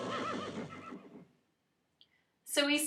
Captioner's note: horse neighs